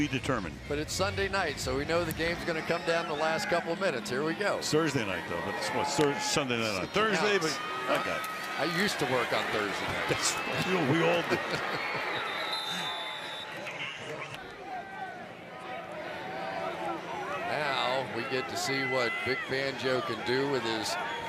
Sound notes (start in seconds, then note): 13.5 laughs